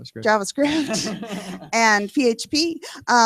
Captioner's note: laughter